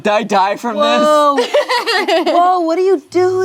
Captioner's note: laughs